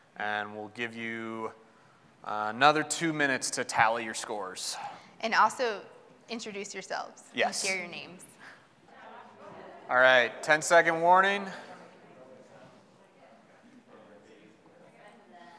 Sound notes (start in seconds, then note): 8.8 group chattering; 11.5 group chattering